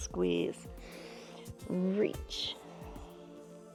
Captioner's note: inhales